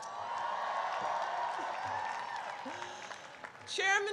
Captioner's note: cheers